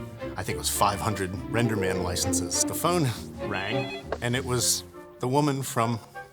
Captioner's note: chuckles